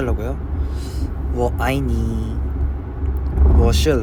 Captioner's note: speaking Chinese